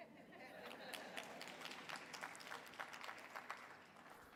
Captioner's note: audience applauding